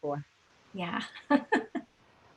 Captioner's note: laughing